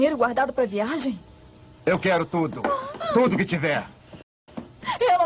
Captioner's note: shrieks, gasps